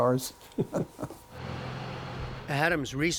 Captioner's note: laughter